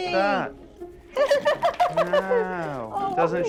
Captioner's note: laughing